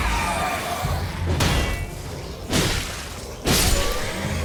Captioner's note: enemies shrieking; zombies growling